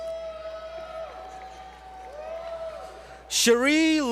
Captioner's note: applause